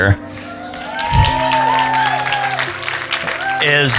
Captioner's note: cheering